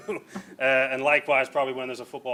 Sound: laughing

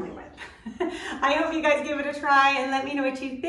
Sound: laughing

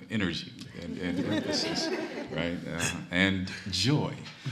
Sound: audience laughing

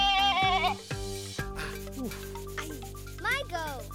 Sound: bleating; soft moans

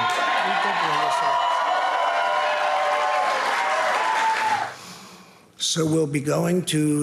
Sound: audience applauds and cheers

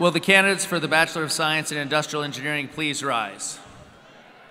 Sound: cheers and applause

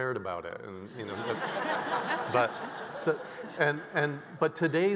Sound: all laughing

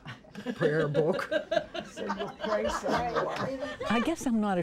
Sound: ladies laughing

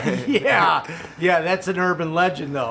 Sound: laughing

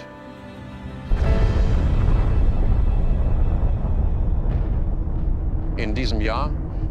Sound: explosion rumbling

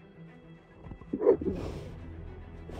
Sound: boulder scrapcrapes

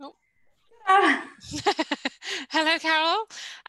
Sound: chuckling

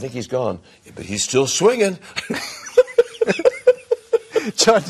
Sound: laughing

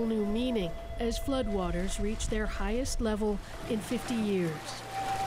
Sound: alarm Sounds

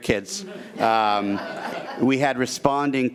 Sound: attendees laughing

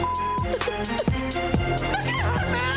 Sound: beep; tense electronic music; weeps

